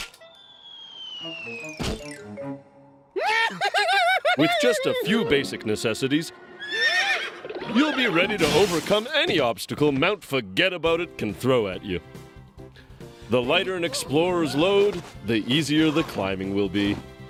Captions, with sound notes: (laughter) WITH JUST A FEW BASIC NECESSITIES... (whinnies) YOU'LL BE READY TO OVERCOME ANY OBSTACLE MOUNT FORGET ABOUT IT CAN THROW AT YOU. THE LIGHTER AN EXPLORER'S LOAD, THE EASIER THE CLIMBING WILL BE.